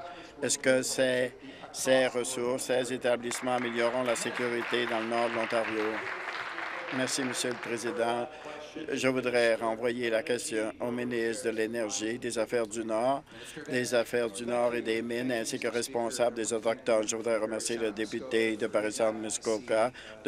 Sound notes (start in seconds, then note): 6.3 applause